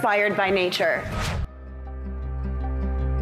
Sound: air whooshing; bright music

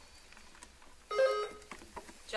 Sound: buzzer sounding

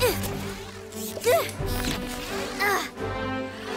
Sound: Cavu grunts

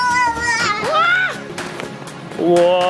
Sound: screams

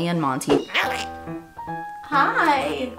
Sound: Nellie chirps

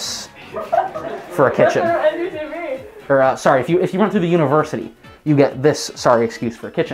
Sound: laughter

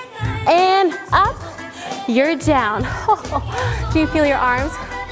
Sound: laughs

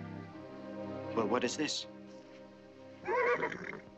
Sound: whinnies

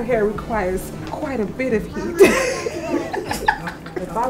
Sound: laughs

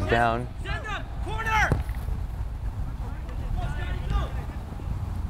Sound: players talking and yelling

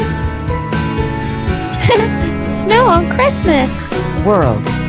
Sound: laughs

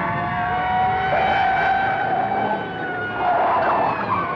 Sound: sirens wailing; tires screech

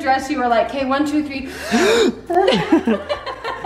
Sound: breathes in; laughing

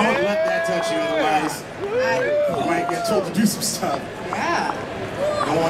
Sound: audience cheering

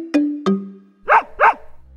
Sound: dog bark

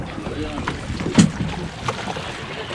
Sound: fish splashing; clattering

